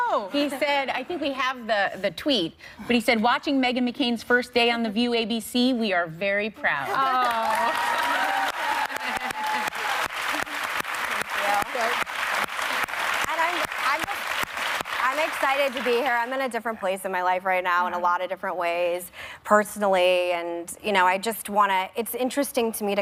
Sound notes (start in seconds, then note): 11.5 cheers and applause